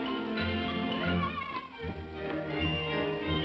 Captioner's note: Tiny Tim cheers; upbeat music